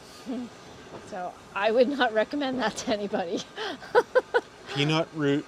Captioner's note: laughs